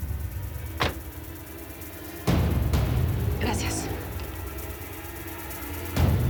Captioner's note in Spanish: portazo